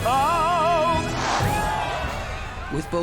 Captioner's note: cheering